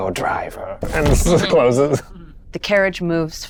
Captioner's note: chuckling